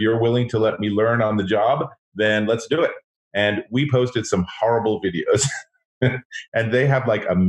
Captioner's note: laughs